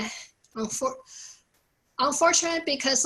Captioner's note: none